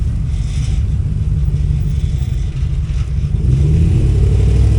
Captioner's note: engine humming